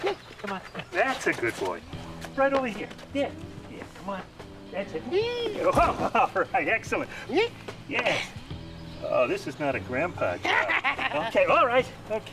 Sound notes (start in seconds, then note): 8.7 chuckling